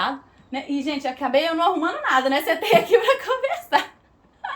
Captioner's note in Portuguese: risadas